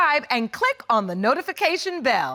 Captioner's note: none